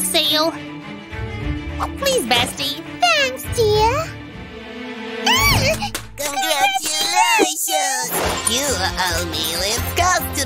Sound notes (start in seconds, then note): 5.2 making happy sounds